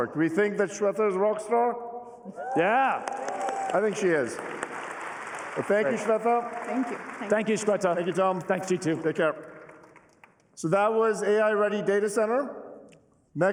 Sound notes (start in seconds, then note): 4.6 applause